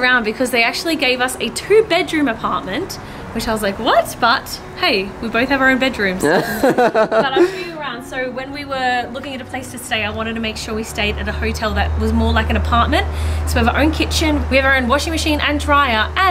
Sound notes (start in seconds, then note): 6.2 laughs